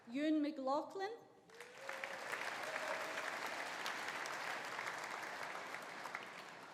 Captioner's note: audience applauding; audience cheering